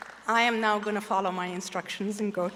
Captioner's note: applause